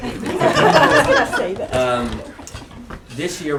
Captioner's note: laughter